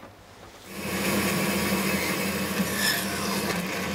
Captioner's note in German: Maschinenrauschen